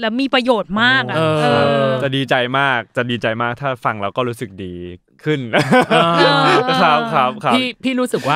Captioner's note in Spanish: Risas